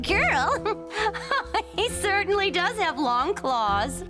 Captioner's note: laughing